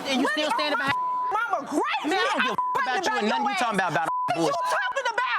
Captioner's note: beep